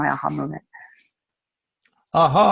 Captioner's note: laughs